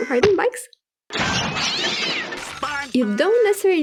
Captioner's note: screaming; crash; cats hissing